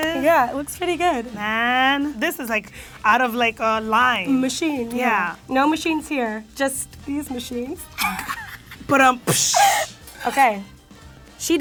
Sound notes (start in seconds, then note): 8.2 imitating drums; 9.2 wheezes